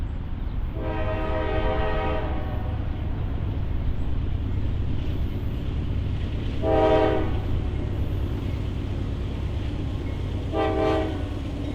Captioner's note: train horn